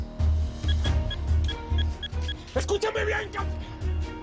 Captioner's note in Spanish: Bips